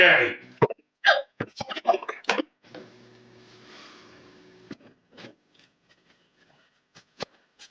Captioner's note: Tracy screaming; can thudding